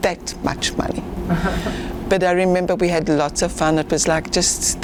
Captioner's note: laughing